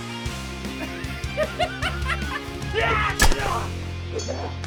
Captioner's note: assailant cackling